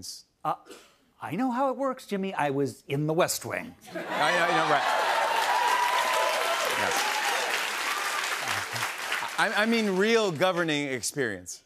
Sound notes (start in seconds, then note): 3.9 cheers and applause